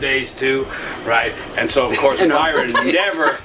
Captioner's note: laughs